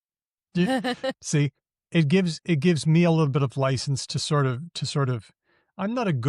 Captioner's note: laughs